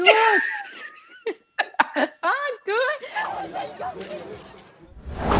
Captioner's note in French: rires